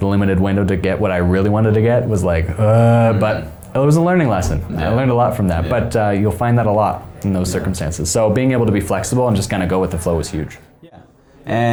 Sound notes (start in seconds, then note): 2.4 groans